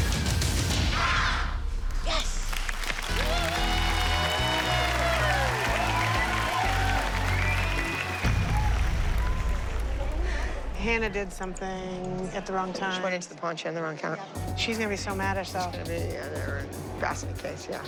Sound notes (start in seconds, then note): 0.2 dancers shout; 2.4 cheers and applause